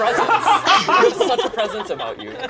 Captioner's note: all laugh